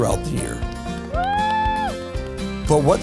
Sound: cheering

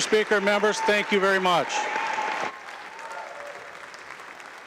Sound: applause

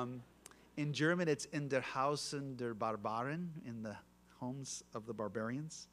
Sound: German spoken

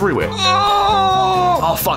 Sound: various orgasm noises

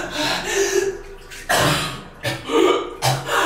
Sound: inhaling deeply; coughing; hyperventilating

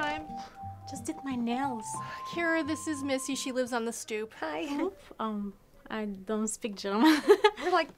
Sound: laughs

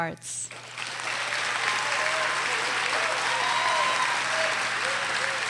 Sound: audience cheers and applauds

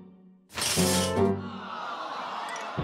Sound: audience awws

